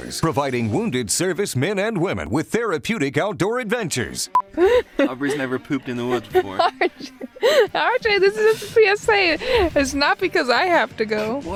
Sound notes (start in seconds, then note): 4.3 beep; 4.4 chuckles